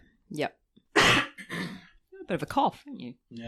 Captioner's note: coughs